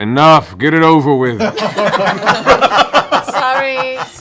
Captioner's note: laughter